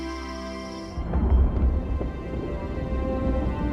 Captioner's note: thunder rumbles